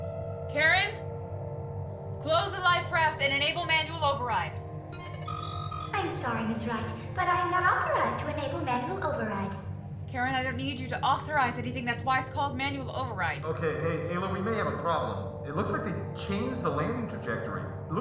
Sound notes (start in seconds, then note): 4.9 error chime